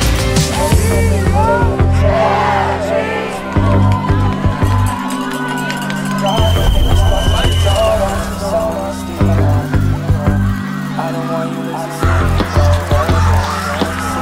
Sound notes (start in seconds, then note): 3.4 clapping and murmurs of anticipation; 6.4 sand scatters; 6.4 whistle; 9.4 cacophony of cheering